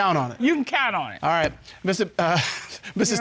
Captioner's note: chuckles